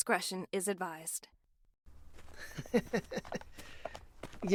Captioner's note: drunken chuckle